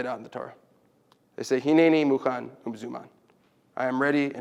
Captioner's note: Hebrew